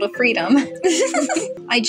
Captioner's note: both Giggle